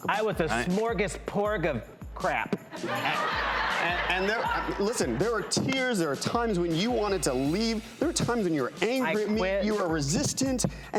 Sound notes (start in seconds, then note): 2.7 audience laughing